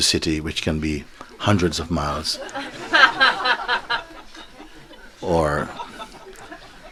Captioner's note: laughter